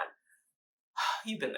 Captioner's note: sigh